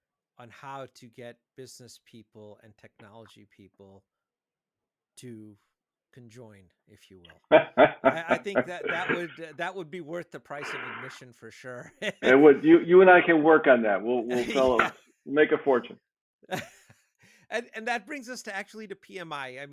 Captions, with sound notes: on how to get business people and technology people to conjoin, if you will. (laughing) I think that that would be worth the price of admission for sure. (chuckles) - You and I can work on that, we'll make a fortune. - Yeah. (chuckles) And that brings us to actually to PMI,